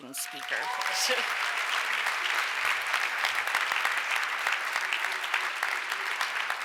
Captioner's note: audience cheers and applauds